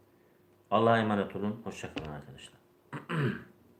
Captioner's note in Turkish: boğazını temizler